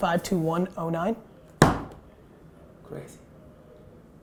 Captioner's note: slam